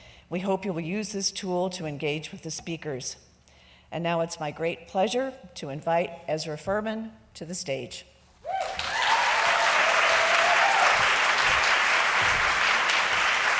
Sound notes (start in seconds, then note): 8.5 applause